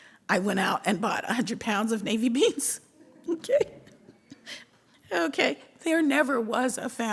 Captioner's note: laughs